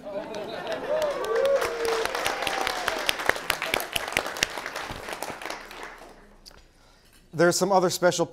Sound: applause

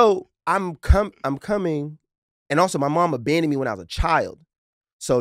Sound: none

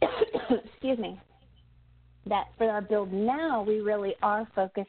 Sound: coughs

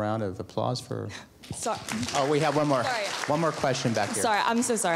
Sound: applause

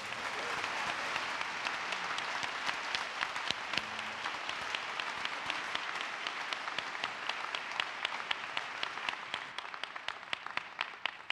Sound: applause

